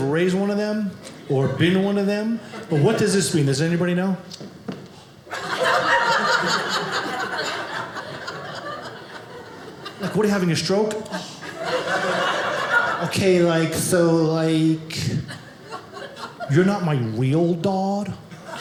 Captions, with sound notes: raised one of them or been one of them, but what does this mean? Does anybody know? (audience laughing) What are you having a stroke? "OK, like, so like, you're not "my real dad."